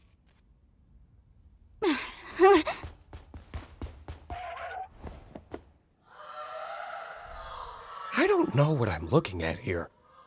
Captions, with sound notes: [ Groans, exclaims softly ] [ Zooble screaming ] I don't know what I'm looking at here.